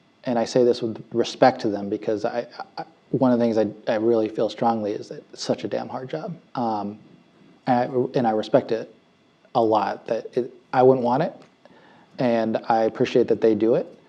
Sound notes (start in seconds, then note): none